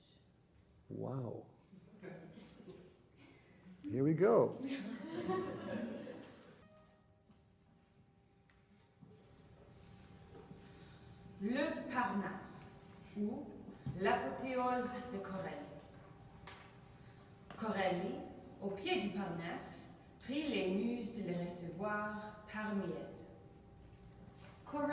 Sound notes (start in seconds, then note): 10.9 speaking in a foreign language